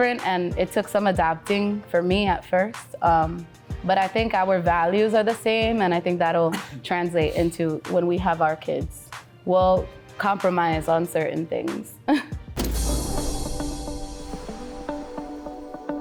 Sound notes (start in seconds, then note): 12.4 laughs; 13.0 cheerful music